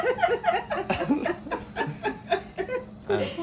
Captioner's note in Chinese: 笑聲